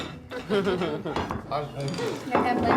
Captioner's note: Angela laughs